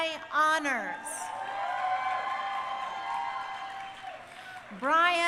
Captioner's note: crowd cheering